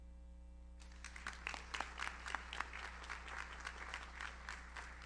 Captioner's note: audience applauds